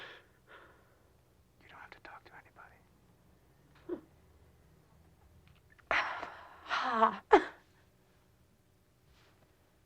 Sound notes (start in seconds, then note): 1.4 whispers; 5.9 sighs